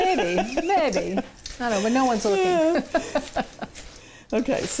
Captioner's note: laughing; chuckles